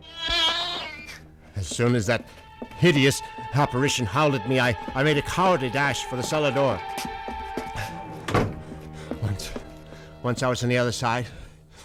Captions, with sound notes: [ Cat yowls ] As soon as that hideous apparition howled at me, I-I made a cowardly dash for the cellar door. [ Breathing heavily ] [ Door closes ] Once -- Once I was on the other side,